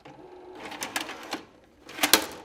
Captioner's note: videotape player clatters